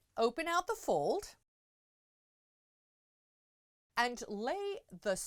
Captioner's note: no Sound Present